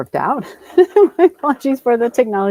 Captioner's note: laughs